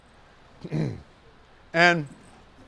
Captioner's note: clears throat